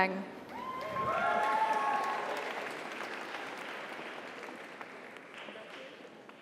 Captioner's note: audience cheers; audience applauds